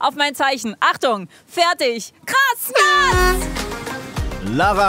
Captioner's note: Startsignal